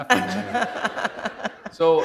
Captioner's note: laughter